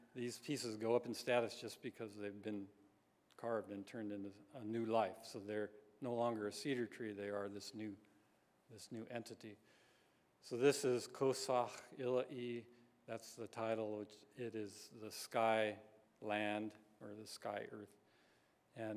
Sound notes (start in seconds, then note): 11.3 non-english speech